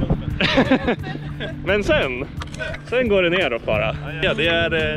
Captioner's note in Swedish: skrattar